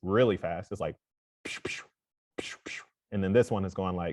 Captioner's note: makes quick vocal sounds